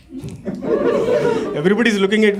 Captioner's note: audience in dis belief